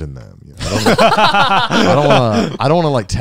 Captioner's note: laughing